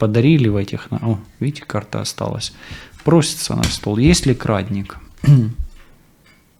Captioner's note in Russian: откашливается